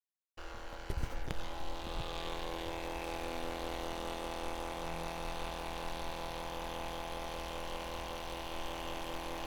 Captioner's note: mini printer noises